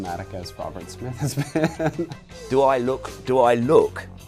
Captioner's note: laughs